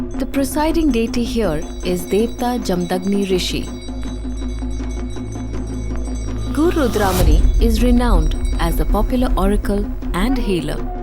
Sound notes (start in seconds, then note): 3.9 bells jingling; 3.9 soft drumming; 10.8 soft drumming; 10.8 trumphets blowing